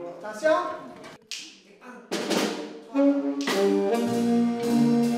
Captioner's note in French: claquement de doigts